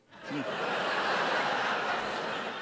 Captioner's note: laughter